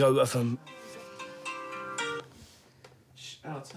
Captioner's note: cell phone rings